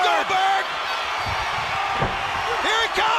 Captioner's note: crowd cheering